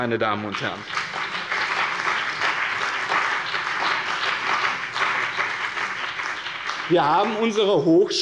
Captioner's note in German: Beifall bei dem BÜNDNIS 90/DIE GRÜNEN und der CDU